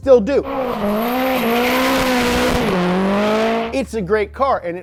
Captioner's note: engine running